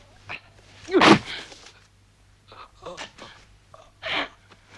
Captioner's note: Rothrar groans